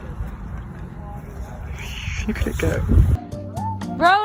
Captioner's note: whoosh